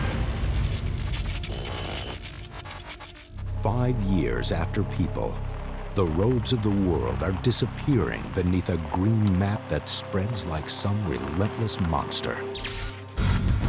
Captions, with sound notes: [buzzing and crackling] Five years after people, the roads of the world are disappearing beneath a green map that spreads like some relentless monster.